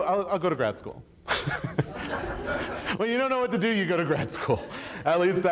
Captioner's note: chuckles; audience laughs